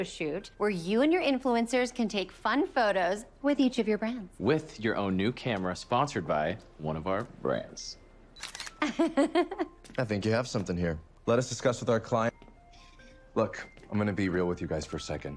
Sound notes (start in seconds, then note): 8.8 laughs